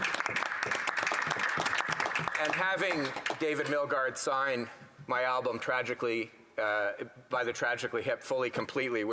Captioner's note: some Applause